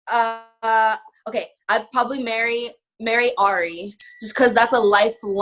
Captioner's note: dinging